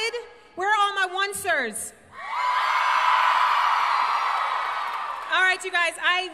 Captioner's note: crowd cheers